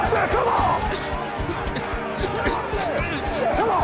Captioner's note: crowd clamoring